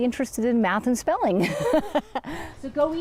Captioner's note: laughs